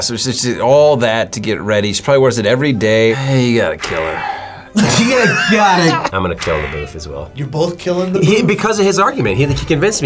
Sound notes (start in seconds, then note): 3.8 React laughs